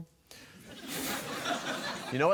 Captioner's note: laughter